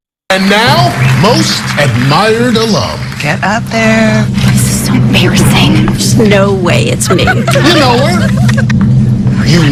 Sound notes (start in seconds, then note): 7.0 friends laughing